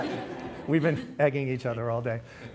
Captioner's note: laughs; laughter